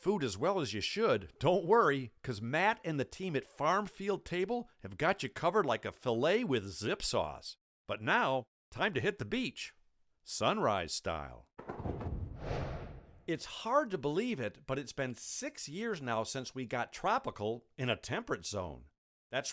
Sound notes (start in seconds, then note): 11.7 whooshing